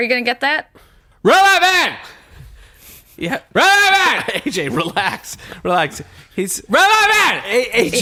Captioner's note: shouting